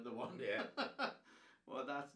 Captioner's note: laughing